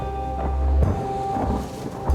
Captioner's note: thunder